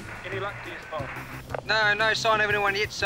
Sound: police radio crackles

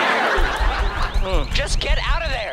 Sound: pounding on the door

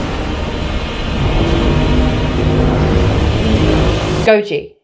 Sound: charging up atomic breath

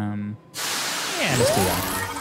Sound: engine noises

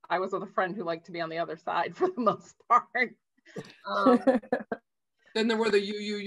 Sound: chuckles

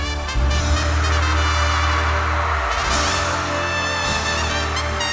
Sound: audience cheers

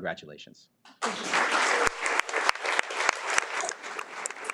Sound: audience clapping

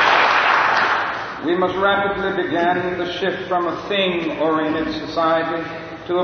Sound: applause

